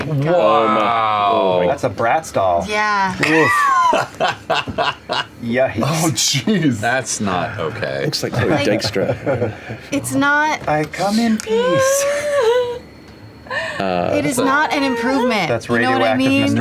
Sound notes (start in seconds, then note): 3.8 laughter; 6.1 laughing; 8.2 laughter; 12.0 laughter